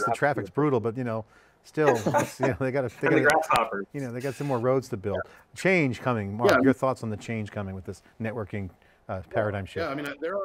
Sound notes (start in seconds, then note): 1.8 group laughs